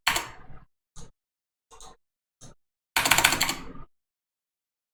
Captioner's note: keyboard clicks